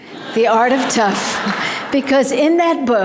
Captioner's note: audience laughter